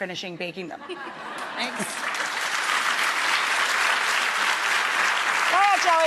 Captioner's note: laughter and applause